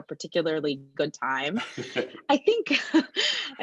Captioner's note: laughing